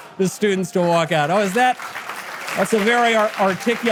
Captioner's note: audience applause